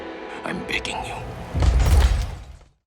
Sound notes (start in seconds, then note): 1.5 thumps and shattered glass